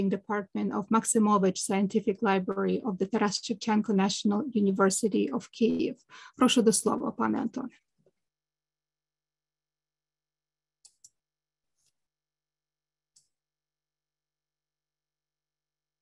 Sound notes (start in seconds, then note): 6.4 speaking ukrainian